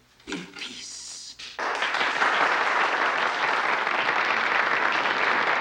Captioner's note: applause